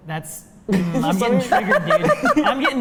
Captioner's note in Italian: risate